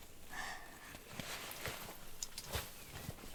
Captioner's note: Lily sighing